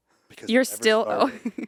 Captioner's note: laughs